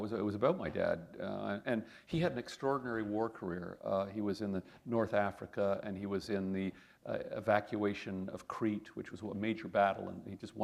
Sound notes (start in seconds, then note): none